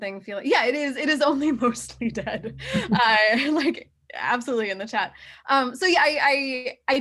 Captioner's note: chuckles